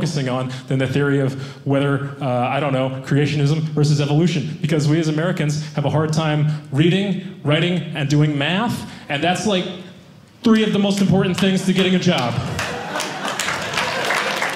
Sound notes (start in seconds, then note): 12.4 audience laughing